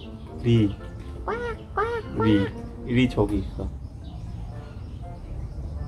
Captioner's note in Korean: 밖에서 오리 소리가 나는중